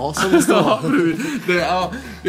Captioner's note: laughs